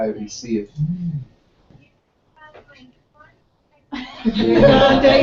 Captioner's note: laugh